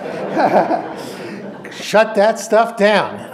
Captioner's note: audience laughs